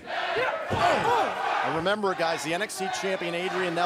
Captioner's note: fans chanting